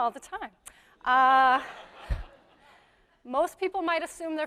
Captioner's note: audience laughs